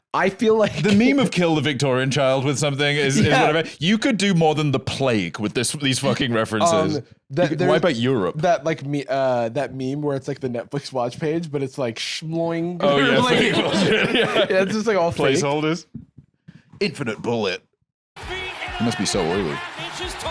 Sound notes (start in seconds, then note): 12.9 laughing